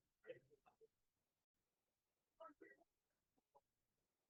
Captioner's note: no audio-break